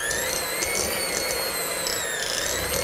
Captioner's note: mixer whirring